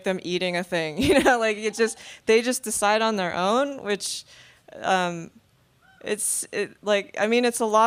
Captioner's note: laughing